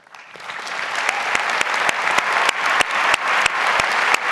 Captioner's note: audience applauds